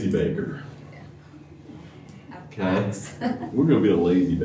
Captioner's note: laughter